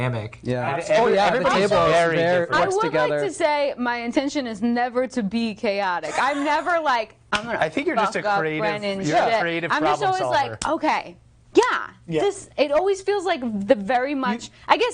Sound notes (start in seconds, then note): 6.1 laughing